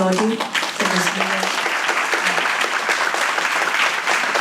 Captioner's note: audience claps